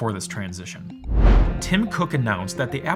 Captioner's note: air whooshing